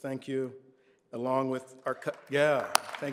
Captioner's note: applause